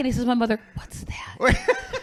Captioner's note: whispering; laughing